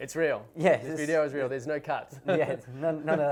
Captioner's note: laughs